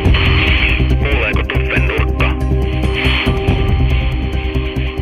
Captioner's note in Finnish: Radiopuhelimen rätinää ja tunnusmusiikkia; Radiopuhelimesta; Tunnusmusiikkia